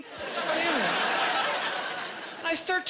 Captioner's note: laughing